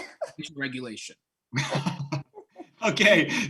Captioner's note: laughing